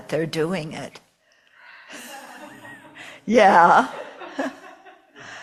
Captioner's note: laughter off screen